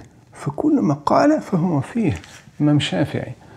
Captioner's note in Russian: Говорит на арабском